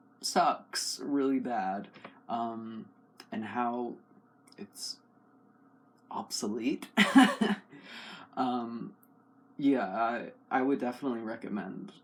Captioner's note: laugh